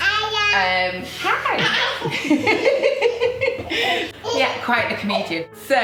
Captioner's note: baby babbling; laughing